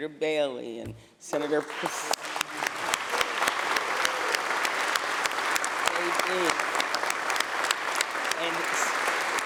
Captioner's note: applause